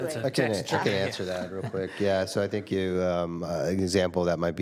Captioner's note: some Laughter